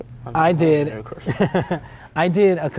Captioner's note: laughs